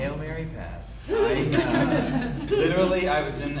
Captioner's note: audience laughing